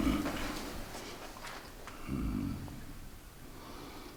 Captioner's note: Derek grunting